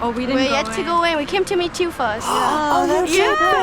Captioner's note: gasps